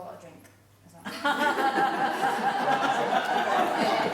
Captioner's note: laughing